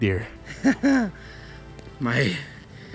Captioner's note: laughs